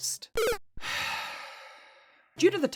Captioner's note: sigh